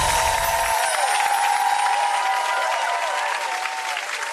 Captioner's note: gentle chimes; audience cheers